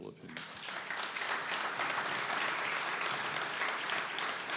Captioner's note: audience clapping